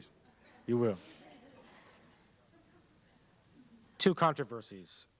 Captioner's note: laughter